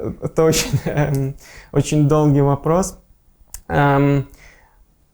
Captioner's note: laughing